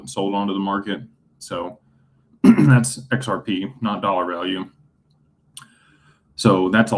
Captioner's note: clears throat